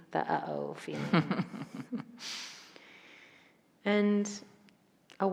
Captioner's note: chuckles